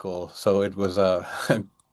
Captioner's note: chuckles